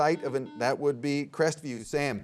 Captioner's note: buzzer beeps